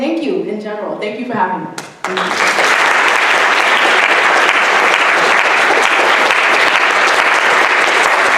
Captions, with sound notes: And thank you in general. Thank you for having me. (audience applauding)